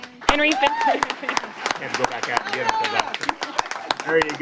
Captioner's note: applause